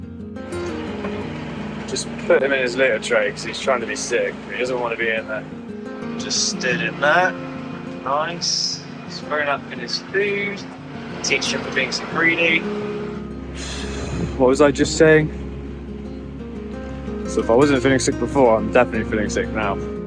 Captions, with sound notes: I'd just put him in his litter tray because he's trying to be sick But he doesn't want to be in there! I just stood in that! Nice! He's thrown up in his food! It will teach him for being so greedy! [Blows] what was I just saying! So if I wasn't feeling sick before I'm definitely feeling sick now!